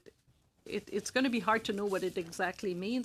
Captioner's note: speaking French